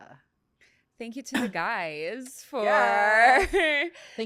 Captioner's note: laughs